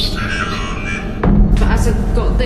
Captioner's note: device vocalising